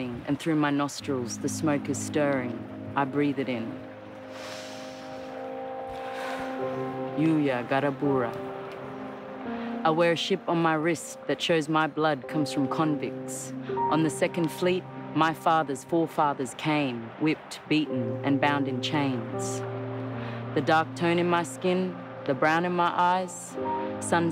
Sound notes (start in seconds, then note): 4.2 inhaling and exhaling